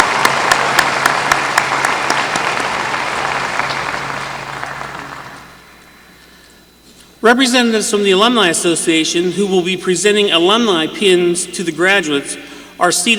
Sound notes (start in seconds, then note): 0.0 applause